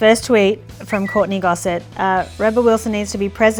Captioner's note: lips whistle